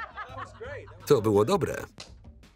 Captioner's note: laughter; voiceover